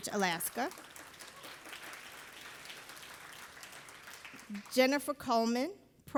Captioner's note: audience applauding